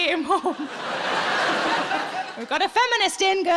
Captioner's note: audience laughs